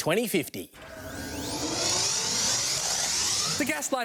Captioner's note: whirring